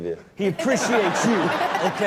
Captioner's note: Chanel and audience laugh